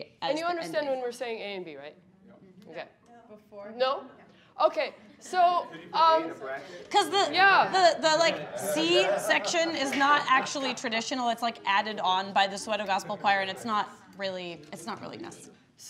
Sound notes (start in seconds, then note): 2.9 speaking faintly